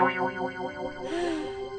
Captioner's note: sighing